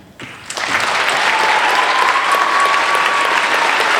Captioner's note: applauding